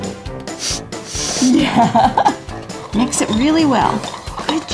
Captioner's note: laughs